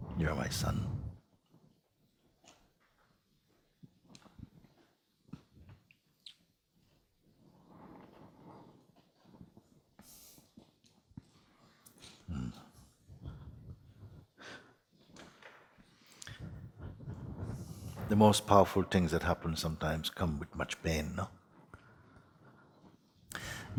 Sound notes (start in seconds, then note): 4.0 silence